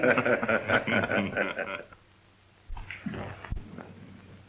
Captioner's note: men laughing